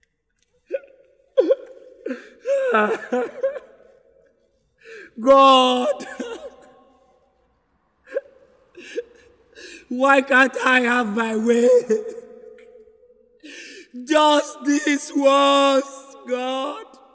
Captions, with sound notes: (crying) God. why can’t I have my way? Just this once God